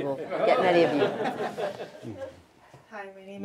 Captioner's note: laughter